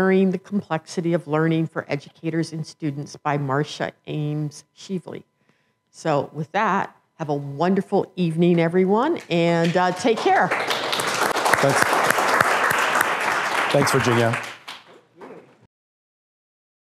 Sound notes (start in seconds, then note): 9.6 applause